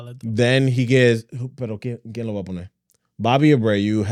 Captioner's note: speaking In Foreign Language